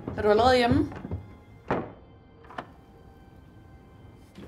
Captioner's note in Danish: Løbende skridt. En anden dør smækkes og låses